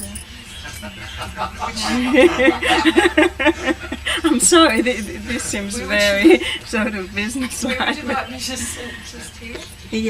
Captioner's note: laughter